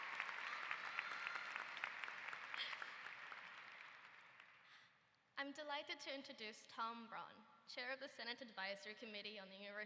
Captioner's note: applause